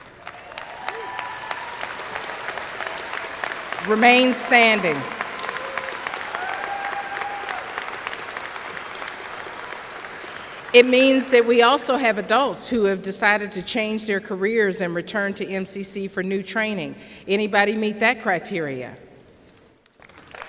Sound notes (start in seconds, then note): 0.3 applause; 5.9 cheers